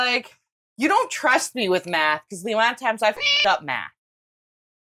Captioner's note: meow